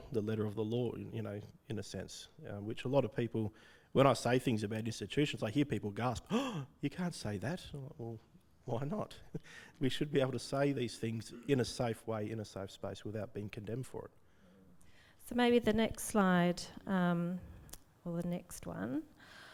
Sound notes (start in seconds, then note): 6.3 gasps